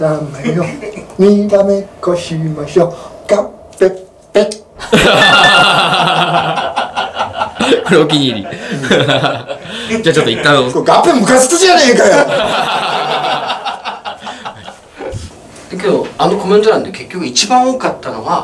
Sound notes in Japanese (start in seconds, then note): 4.8 笑い; 12.1 笑い